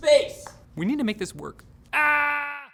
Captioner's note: screams